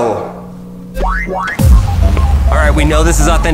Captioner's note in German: Videospiel piept